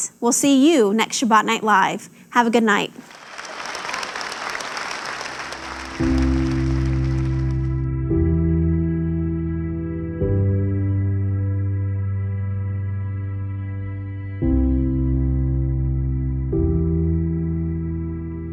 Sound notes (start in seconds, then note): 3.0 audience applauds; 5.8 light music